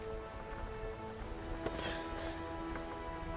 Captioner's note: gasps